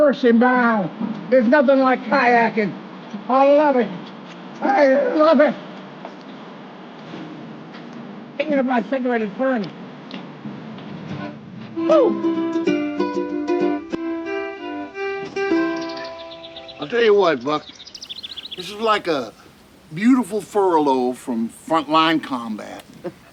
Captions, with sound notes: Mercy my, there's nothing like kayaking. I love it! I love it! Even if my cigarette is burning. Whoo! (birds chirping) I'll tell you what, Buck this is like a beautiful furlough from frontline combat.